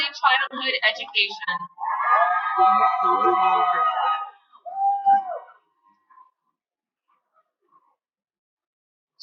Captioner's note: cheering